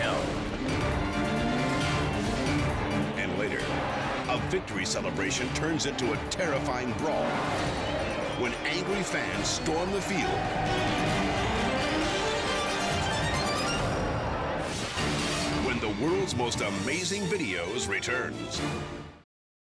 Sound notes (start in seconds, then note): 0.2 dramatic music continues; 7.0 crowd shouting; 7.0 dramatic music continues; 10.4 crowd shouting; 10.4 dramatic music continues